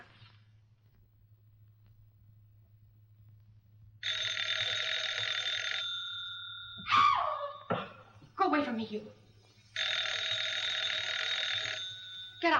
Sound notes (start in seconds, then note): 4.0 phone rings; 6.8 woman shrieks; 9.7 phone rings